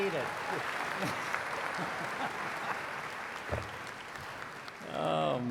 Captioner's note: applause